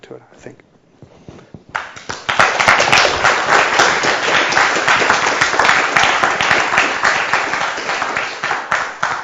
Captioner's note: applause